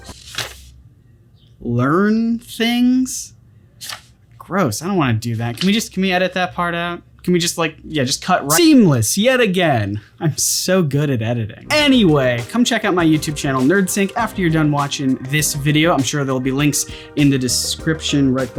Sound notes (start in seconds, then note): none